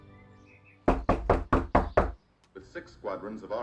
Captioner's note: Trixie knocking